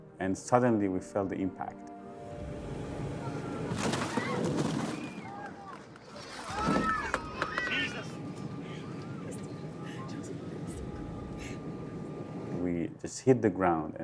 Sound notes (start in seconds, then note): 4.0 people screaming